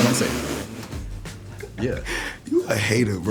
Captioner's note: laughing